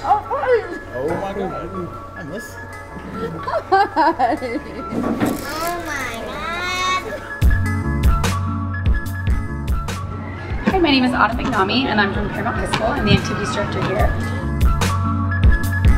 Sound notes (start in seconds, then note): 3.0 laughs